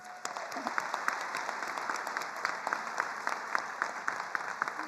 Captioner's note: attendees applauding